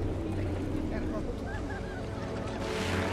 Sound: water gurgling

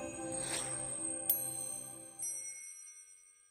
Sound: bells tinkling

